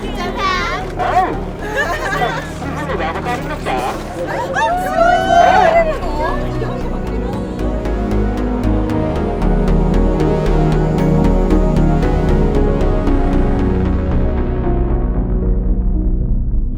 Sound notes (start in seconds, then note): 1.8 laughing; 3.2 speaking Japanese; 4.6 delightfully yelling